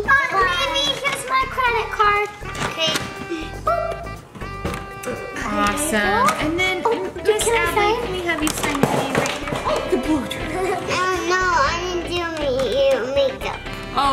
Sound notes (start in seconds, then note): 9.6 blow dryer clattering